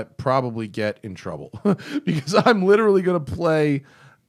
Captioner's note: laughter